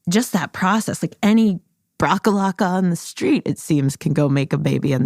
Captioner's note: none